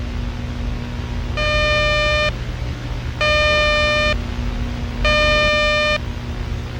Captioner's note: 600 hz tone x3